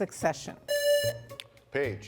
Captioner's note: buzzer rings